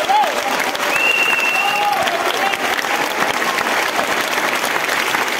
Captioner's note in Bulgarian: аплодисменти